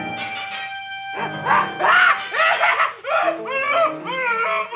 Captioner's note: man screaming